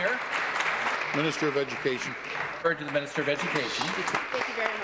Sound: applause

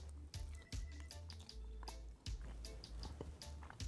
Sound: crunching

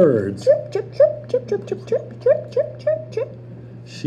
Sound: chirping sounds; birds

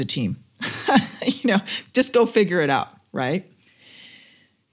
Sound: laugh

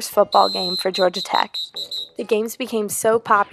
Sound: referee whistle

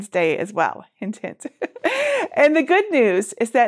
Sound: laughs

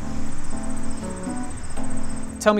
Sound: crickets

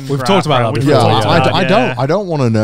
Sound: group mumbling agreement

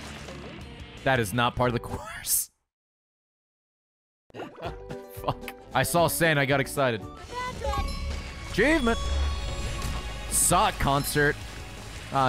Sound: laughs

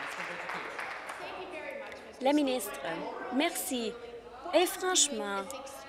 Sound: applause

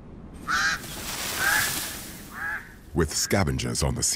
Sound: bird squawking

